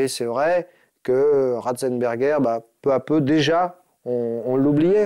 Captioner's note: French spoken audio